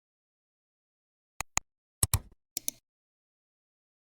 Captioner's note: 3 different clicks